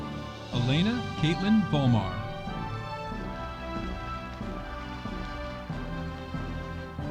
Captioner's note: audience applauding